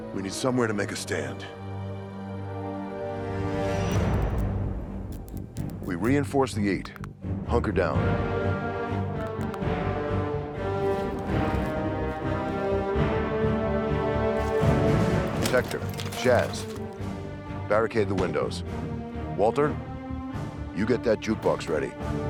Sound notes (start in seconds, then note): 2.1 dramatic music; 3.5 light buzzing; 10.8 joints popping; 12.0 intense music